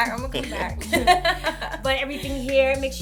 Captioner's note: laughter